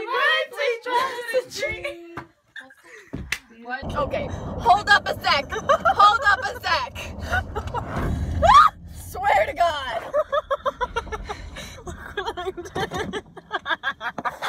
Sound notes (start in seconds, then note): 5.5 laughter; 8.4 startled scream; 10.1 more laughter